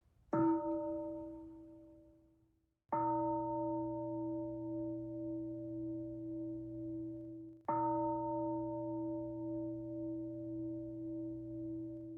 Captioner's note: bell sounds four times